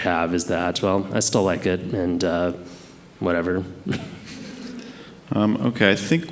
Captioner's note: chuckles